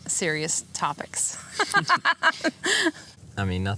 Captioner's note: laughter